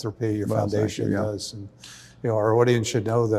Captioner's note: overlapping chatter